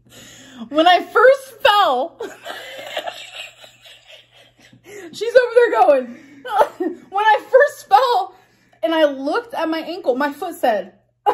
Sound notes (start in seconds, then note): 2.2 laughs